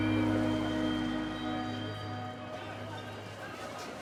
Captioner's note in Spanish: bullicio del lugar